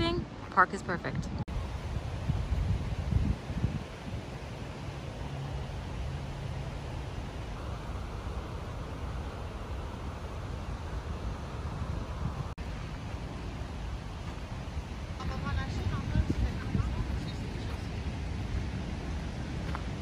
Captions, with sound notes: a park is perfect (sound of waterfall)